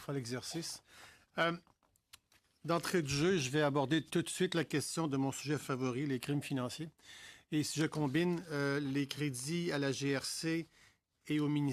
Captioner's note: speaking french